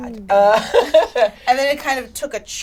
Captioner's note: laughs